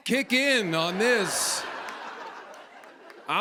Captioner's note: laughter